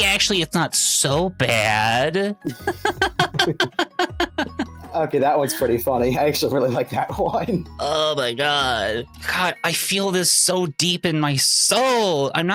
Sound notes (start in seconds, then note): 2.4 both laughing